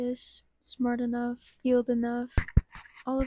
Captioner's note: mic scratch